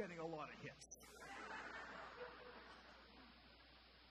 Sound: audience laughter

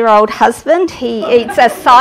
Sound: laughter

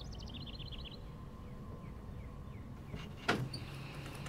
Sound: birds chirping

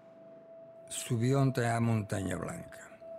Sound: non-english speech

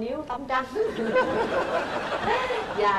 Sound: laughters

